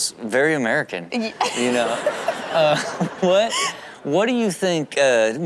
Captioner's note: laughing